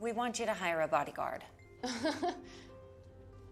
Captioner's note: laughs